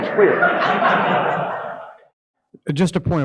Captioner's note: audience laughing